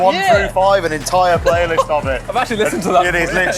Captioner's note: laughs